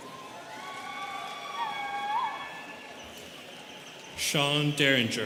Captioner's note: students cheering